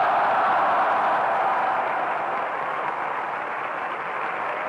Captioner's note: crowd cheering and applauding